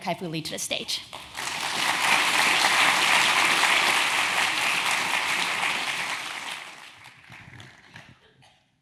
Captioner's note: applause